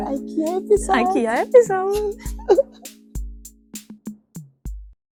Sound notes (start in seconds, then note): 2.3 laughs